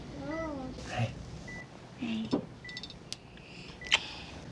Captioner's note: smooch